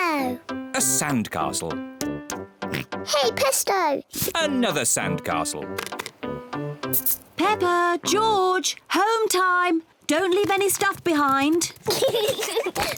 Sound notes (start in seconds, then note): 2.7 oinks; 11.8 both laugh